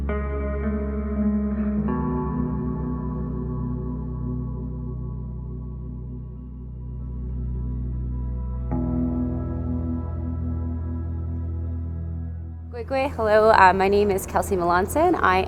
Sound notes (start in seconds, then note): 0.0 lighthearted guitar music continues; 5.6 speaks in foreign language